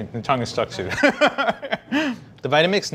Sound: laughing

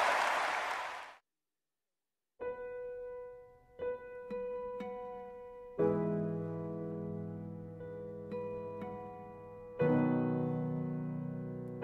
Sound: cheering and applauding

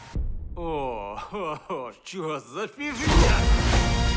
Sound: chuckling

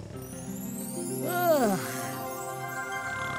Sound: yawning; snoring

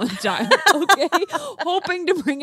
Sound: group laughs

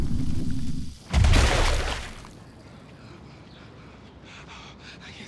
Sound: blood splashes

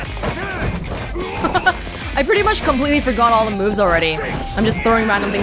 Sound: laughs

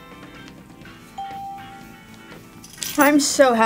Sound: bell rings

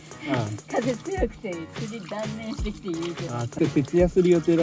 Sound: laughs

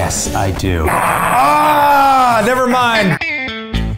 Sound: screams

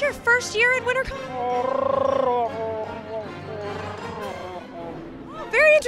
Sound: Chewbacca replies in Wookiee

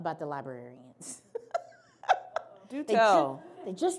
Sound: laughs

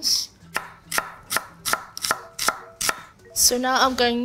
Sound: knife chopping

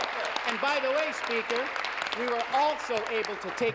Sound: applause

